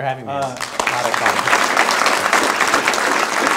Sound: applause

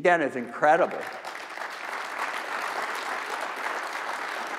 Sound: crowd applauding

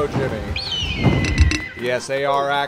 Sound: eagle screeches

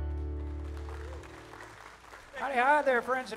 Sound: audience applauding

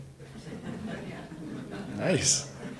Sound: audience laughs

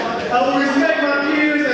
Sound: audience speaking

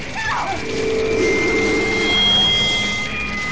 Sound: centipede roars; radio whines

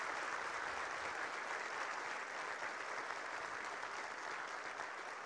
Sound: applause

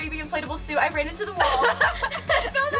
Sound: laughs

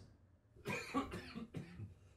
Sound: cough

